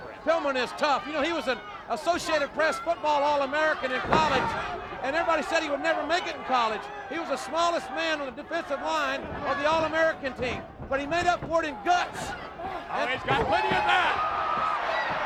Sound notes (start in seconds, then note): 10.2 footsteps plodding